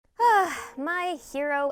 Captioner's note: sighs